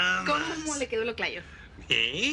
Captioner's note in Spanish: none